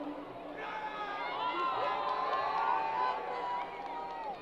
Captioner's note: crowd applause